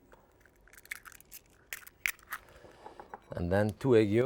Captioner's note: eggs crunching